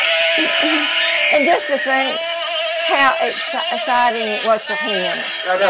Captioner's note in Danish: Bifald